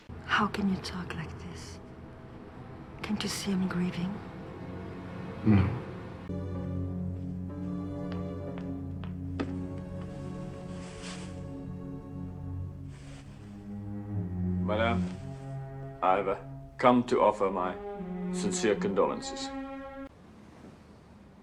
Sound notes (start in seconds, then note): 7.0 footsteps; 10.1 fabric swooshing